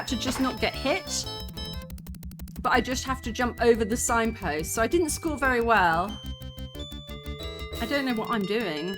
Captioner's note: bell rings